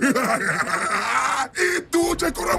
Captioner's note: smug laughter